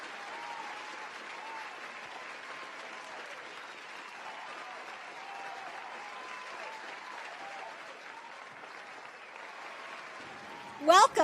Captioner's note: applause